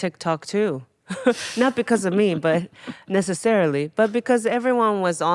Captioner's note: Atsuko chuckling